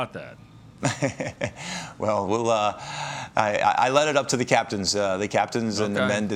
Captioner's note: chuckles